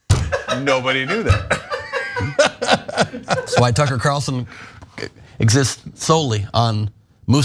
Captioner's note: laugh